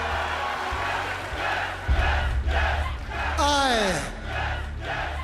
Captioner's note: cheers and applause; fans chanting